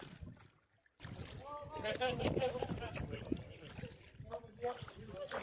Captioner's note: people chattering